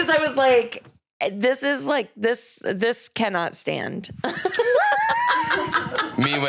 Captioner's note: laughs